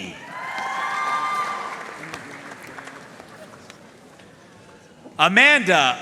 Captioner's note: audience cheering and applauding